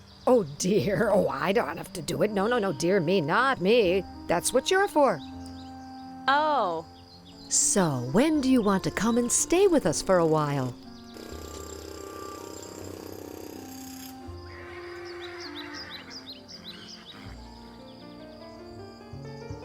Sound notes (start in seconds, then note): 11.1 horses whinny; 14.0 jack hammers bang away; 16.2 theme music quiets down